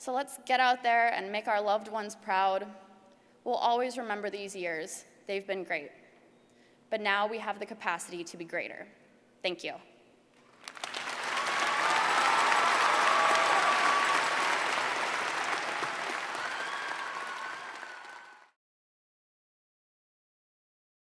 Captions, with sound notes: So let's get out there and make our loved ones proud. We'll always remember these years. They've been great. But now we have the capacity to be greater. Thank you. >> [APPLAUSE]